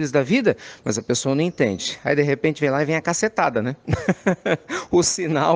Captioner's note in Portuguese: risadas